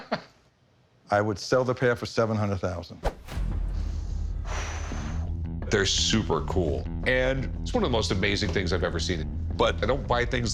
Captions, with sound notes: I would sell the pair for 700,000. [exhales] They're super cool and it's one of the most amazing things I've ever seen. But I don't buy things like this